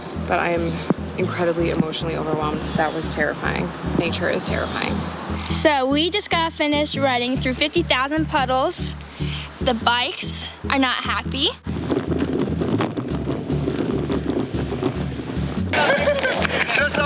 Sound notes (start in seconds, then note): 12.2 wind whipping; 15.7 laughs